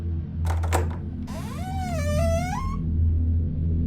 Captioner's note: door unlock and creaking